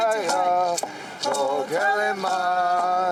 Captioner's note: chanting